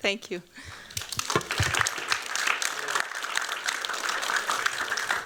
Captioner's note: applause